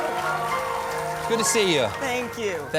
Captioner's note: applause